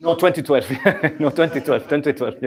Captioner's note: laughter